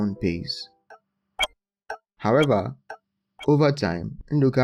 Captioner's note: clock ticking